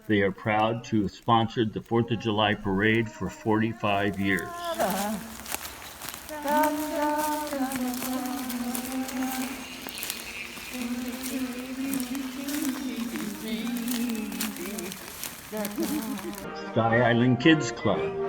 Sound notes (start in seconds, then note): 10.2 humming